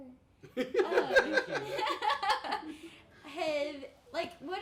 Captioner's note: laughing